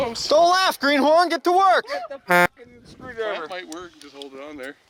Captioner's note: horn beeps